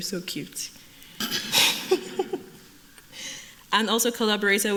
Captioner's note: laughter